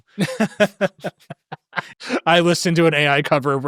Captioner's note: laughing